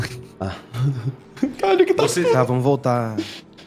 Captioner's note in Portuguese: risos